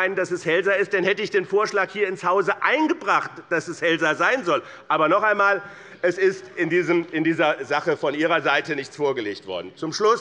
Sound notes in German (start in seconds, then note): none